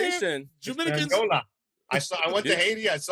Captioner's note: non-english speech